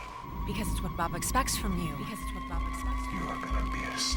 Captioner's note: echoing